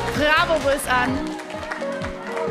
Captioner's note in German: Anfeuerungsrufe